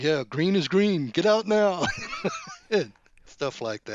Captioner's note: laughs